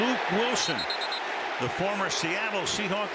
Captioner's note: whistle